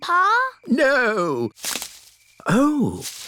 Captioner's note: rustling